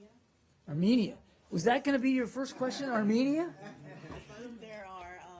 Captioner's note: laughter